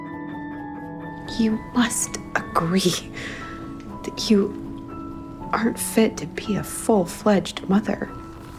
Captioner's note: voiceover